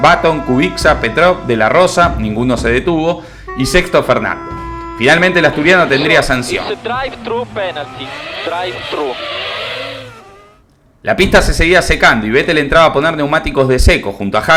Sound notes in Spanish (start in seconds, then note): 7.0 radio